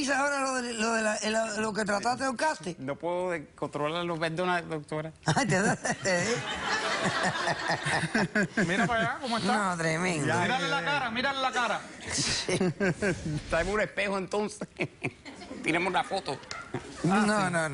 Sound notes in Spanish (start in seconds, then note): 5.4 Risas; 12.3 Risas